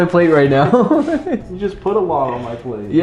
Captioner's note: chuckles